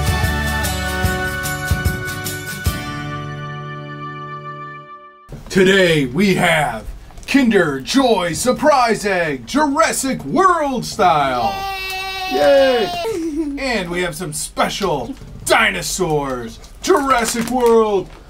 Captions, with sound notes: Today, we have Kinder Joy Surprise Egg, Jurassic World style. (cheering) And we have some special dinosaurs Jurassic World,